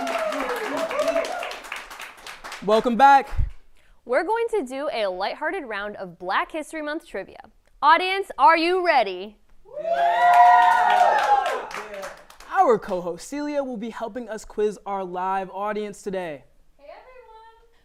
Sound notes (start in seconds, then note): 10.0 applause